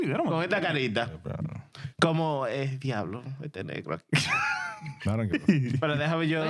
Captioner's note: laughing; speaking In Foreign Language